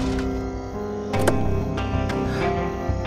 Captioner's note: Car door opens